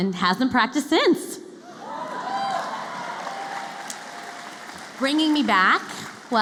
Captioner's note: cheering